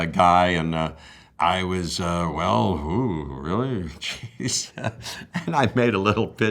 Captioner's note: laughs